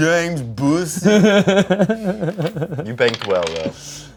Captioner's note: laughs